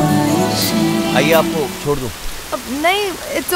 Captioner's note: Car door closes